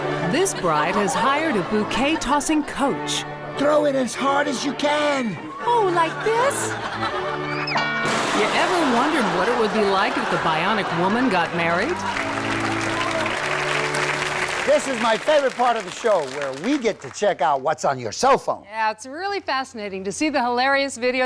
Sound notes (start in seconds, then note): 7.7 boing; 12.8 audience applauds